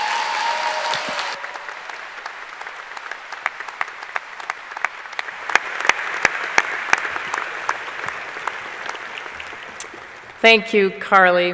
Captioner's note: applause